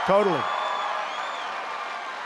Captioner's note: applause